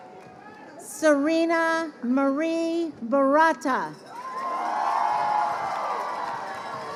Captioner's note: crowd cheering